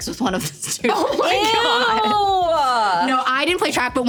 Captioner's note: laughing